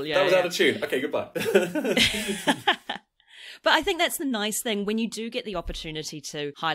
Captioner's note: laughs